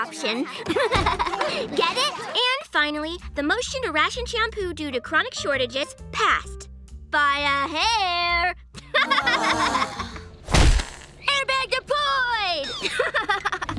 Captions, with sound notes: [laughing] Get it? And finally, the motion to ration shampoo due to chronic shortages passed... by a hair. [laughing, sighing] Airbag deployed! [laughing]